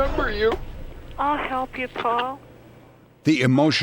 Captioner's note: on phone